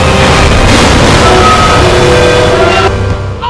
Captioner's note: warcry